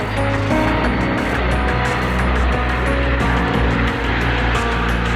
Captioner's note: aircraft engine roaring